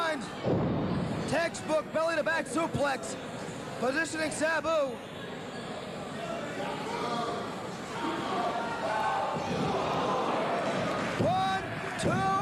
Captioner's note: cheers and applause